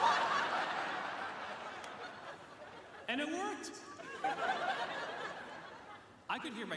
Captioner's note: laughter